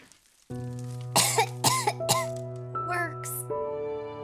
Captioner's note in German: hust hust hust